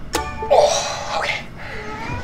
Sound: grunts

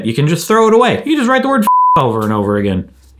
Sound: beep

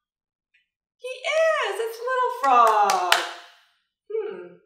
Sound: claps

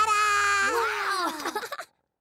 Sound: chuckles

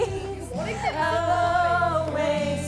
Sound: laughing

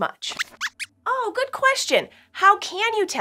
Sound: squeaks squeaks

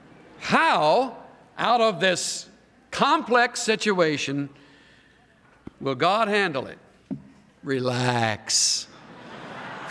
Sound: laughter

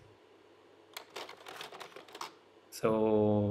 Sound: slide projector clicks

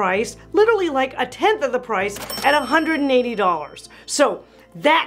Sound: bell rings

